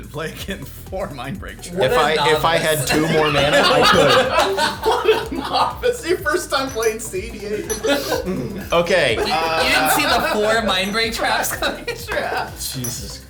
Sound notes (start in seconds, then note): 4.0 all laughing